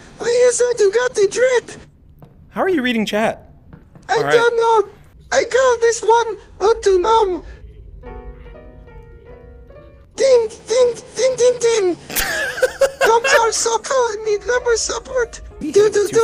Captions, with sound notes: - How are you reading chat? - [Laughter]